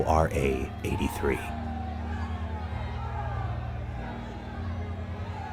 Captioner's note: people yelling